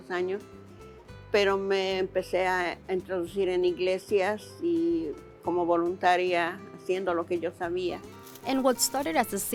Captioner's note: speaking Spanish